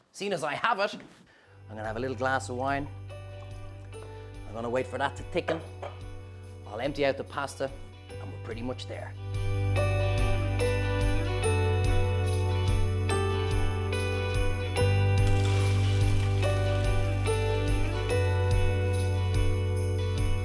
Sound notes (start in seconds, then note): 9.6 bright music; 15.2 water splashes